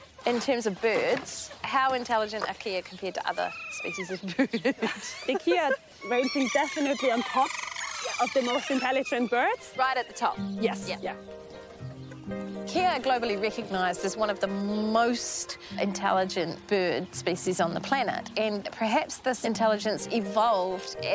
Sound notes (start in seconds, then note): 4.0 laughs